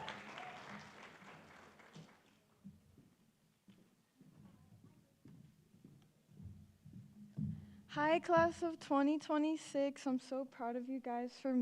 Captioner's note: applause